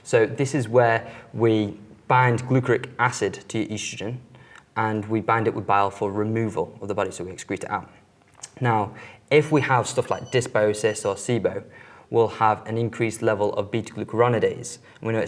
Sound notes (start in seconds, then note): none